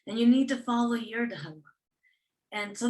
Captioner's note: non-english speech